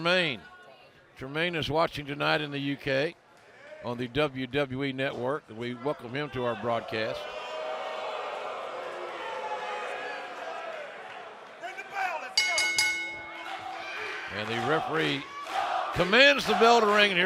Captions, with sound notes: HELLO TO HER BROTHER JERMAINE. JERMAINE IS WATCHING TONIGHT IN THE U.K. ON THE WWE NETWORK. WE WELCOME HIM TO OUR BROADCAST. >> RING THE BELL. LET'S GO! [BELL RINGING] >> AND THE REFEREE COMMANDS THE